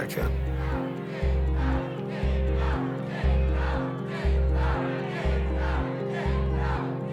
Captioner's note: crowd chanting